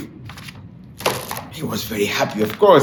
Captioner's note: book clatters